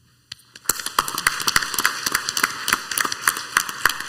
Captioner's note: clapping